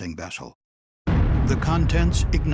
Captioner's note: sound of explosion